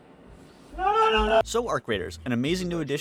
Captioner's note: screams in fear